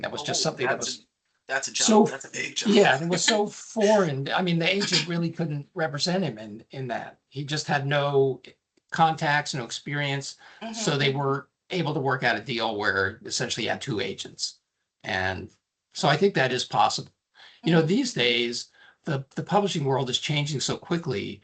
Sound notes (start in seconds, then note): 1.5 laughing